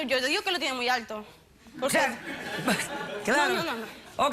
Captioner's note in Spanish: risas